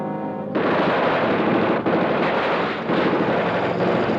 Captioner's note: gunshots blasting